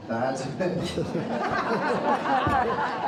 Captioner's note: crowd laughing